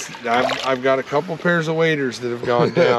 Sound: fish splashing

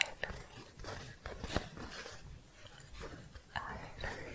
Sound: scratching

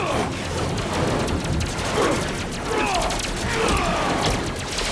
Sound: machines whiz

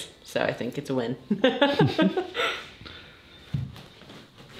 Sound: laughing

